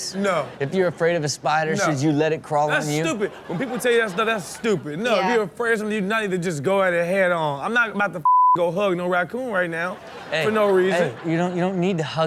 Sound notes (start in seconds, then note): 0.0 audience laughs; 2.7 audience laughs; 8.2 beep; 9.6 audience laughs